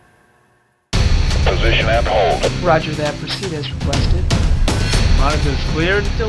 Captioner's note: radio Chatter